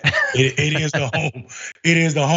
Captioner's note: laugh